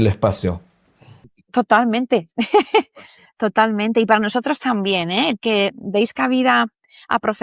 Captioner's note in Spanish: risas